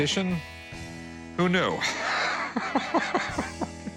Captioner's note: laughs